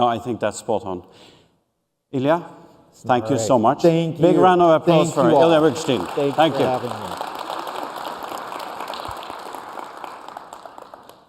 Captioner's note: applause